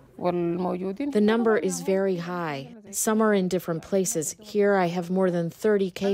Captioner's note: through translator